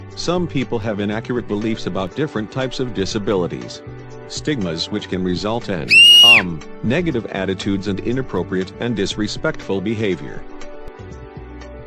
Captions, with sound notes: Some people have inaccurate beliefs about different types of disabilities. Stigmas which can result in... [female scream] umm... negative attitudes and inappropriate and disrespectful behavior.